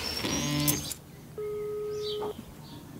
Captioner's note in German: Freizeichen